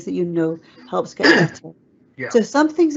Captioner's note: coughs